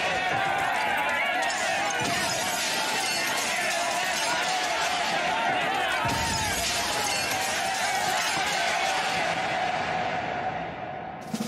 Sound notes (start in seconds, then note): 0.1 crowd Yelling; 2.4 glass Breaking; 5.6 crowd Yelling; 5.9 glass Breaking; 8.5 crowd Yelling